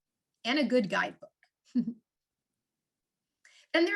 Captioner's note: chuckles